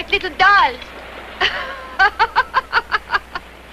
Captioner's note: laughing